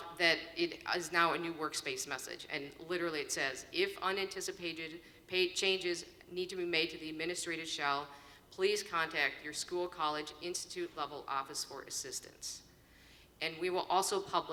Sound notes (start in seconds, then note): none